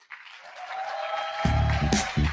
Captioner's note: audience cheers; upbeat music; audience applauds